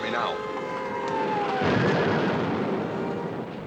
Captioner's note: bombing Continues